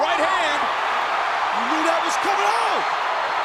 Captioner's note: crowd cheering